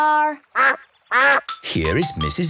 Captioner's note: quacks